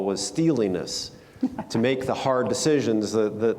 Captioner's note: Oscar laughs